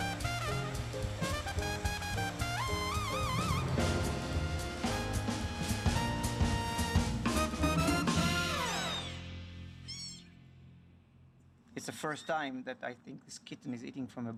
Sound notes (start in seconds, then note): 9.8 kitten mews